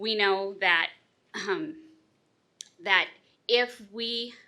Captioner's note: clears throat